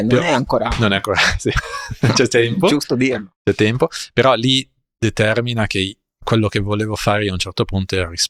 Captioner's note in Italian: risate